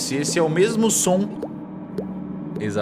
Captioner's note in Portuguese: gotas caindo